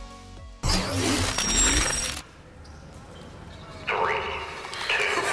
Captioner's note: upbeat music; electronic buzzing